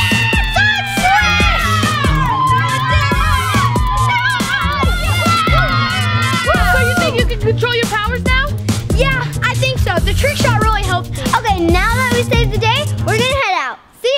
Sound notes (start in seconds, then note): 0.0 children cheering